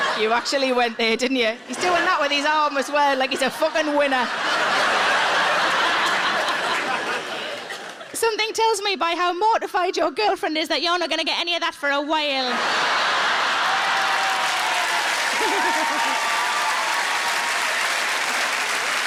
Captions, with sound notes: You actually went there didn't you? He's doing that with his arm as well like he's a fuckin' winner. (audience laughing) Something tells me by how mortified your girlfriend is that you're not gonna get any of that for a while. (audience laughing) (audience cheering and applauding) (Sarah laughing)